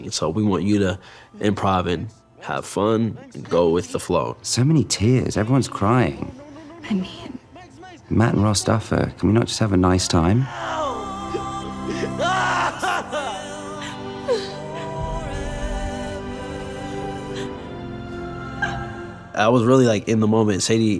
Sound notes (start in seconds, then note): 10.5 Lucas crying; 14.5 Eleven sobbing